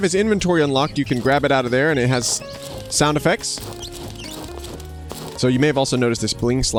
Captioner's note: armored footsteps